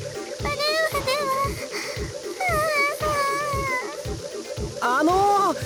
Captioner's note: sputtering from heatstroke